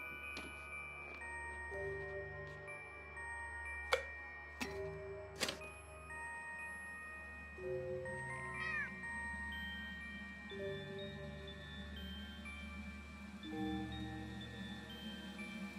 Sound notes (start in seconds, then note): 8.4 cat meows